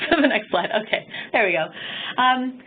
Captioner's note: chuckling